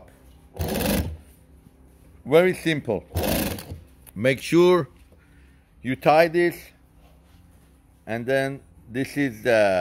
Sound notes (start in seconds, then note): 0.1 machine whirs